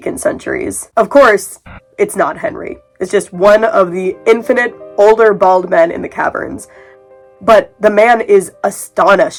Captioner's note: burst of static